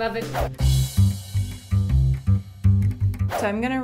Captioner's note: upbeat music; swoosh